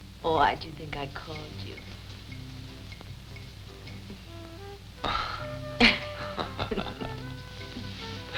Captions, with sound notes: Why'd you think I called you? (laughing)